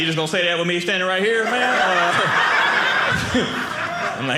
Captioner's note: audience laughing